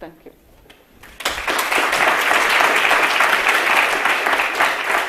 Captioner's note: audience applauding